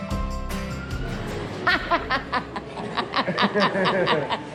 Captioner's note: laughing